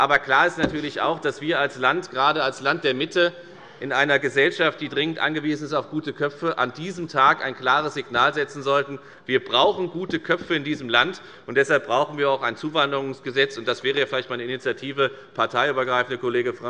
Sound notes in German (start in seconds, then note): none